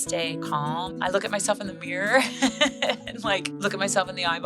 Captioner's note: chuckles